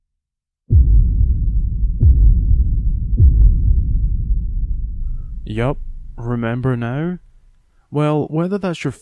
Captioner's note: bold sfx